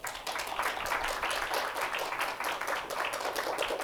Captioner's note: applause